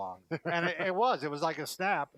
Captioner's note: laughing